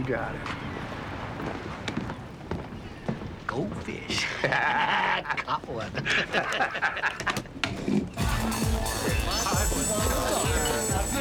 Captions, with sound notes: - You got it. - Go fish. (both laugh) Got one. (laughter continues) (dance music playing)